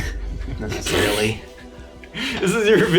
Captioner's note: blows raspberry